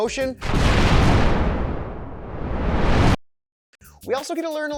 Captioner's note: explosive shatter